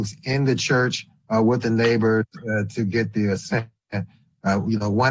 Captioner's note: distorted audio